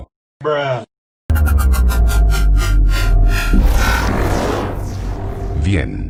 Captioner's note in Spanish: bruh sound effect #2; suenan sonidos del portal de Specter N